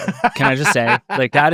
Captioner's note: laughs